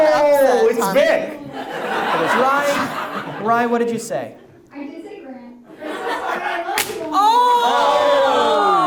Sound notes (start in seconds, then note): 1.2 audience laughs; 5.7 audience laughs